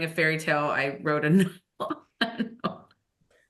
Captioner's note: laughs